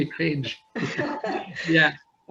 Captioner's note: laughing